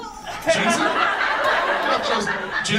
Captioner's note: audience laughs